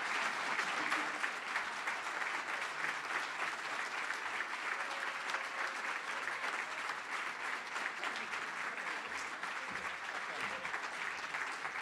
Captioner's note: cheering & Applause